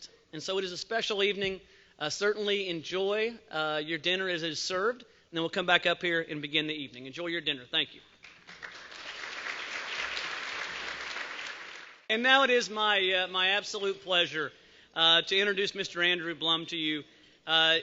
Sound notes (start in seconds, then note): 8.2 applause